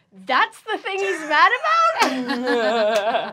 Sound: laughter

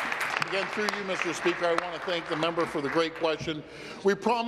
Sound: applause

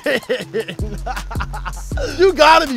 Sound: laughs

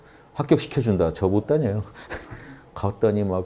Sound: laughters

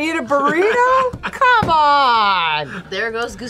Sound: Keith laughs

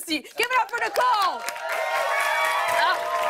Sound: cheers and applause

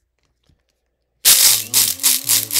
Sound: coffee beans rattling; grinder whirring

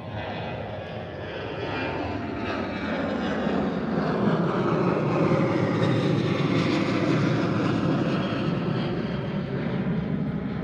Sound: airplane engine

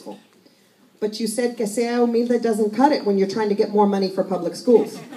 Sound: Spanish

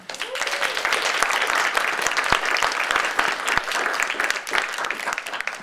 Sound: audience applauding and cheering

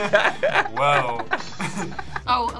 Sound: both laugh; laughs

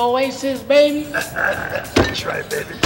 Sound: men chuckling

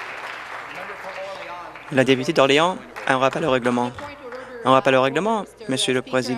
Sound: applause

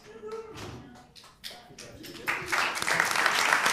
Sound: applause

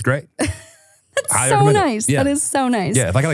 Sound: laughs

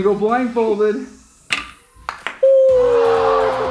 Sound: ball clacks; disappointed crowd

